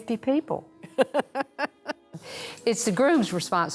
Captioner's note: laughs